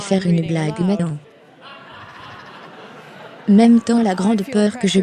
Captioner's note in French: des rires